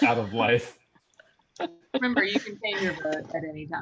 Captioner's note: laughter